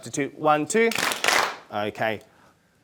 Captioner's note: clap